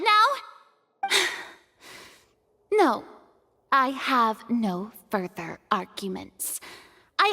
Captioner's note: sigh